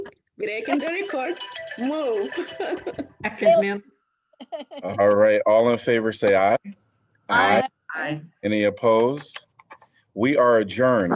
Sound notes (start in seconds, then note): 2.3 laughter